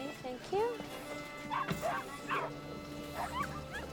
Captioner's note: barking and whining